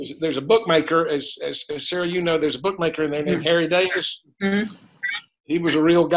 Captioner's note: mmm